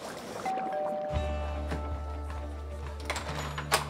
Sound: doorbell rings

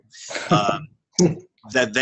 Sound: chuckle

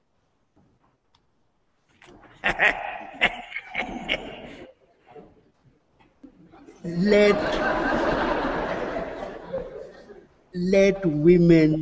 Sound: archbishop laughing

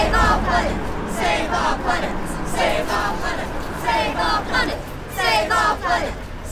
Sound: protesters continue shouting

